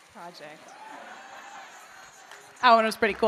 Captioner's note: audience member cheers